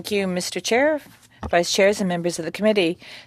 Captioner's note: speaking French